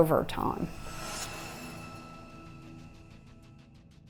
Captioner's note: logo whooshing